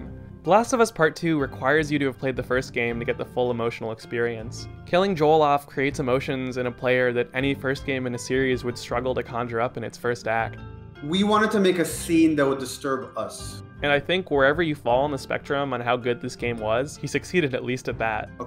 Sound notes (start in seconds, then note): none